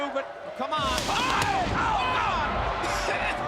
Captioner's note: all scream